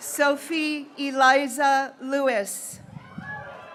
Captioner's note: graduates cheering